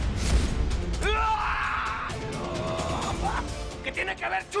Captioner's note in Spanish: Gritos